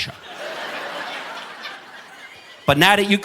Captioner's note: audience laughing